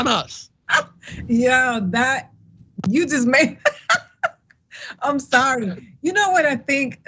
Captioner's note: laugh